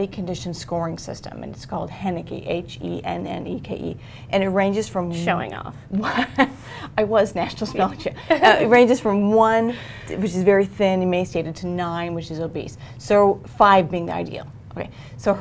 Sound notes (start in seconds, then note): 6.0 chuckles